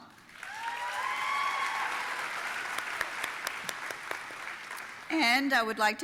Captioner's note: audience applauding and cheering